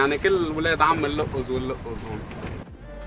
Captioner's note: in Arabic